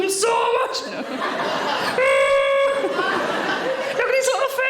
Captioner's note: audience laughing; Sarah groaning